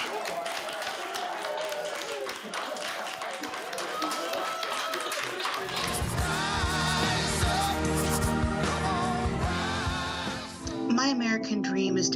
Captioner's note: applause